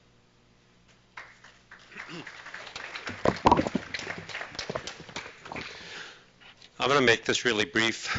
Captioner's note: applause